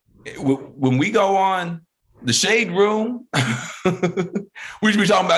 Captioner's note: laughing